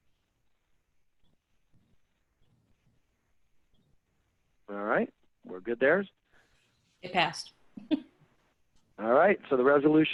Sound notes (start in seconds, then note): 7.8 giggles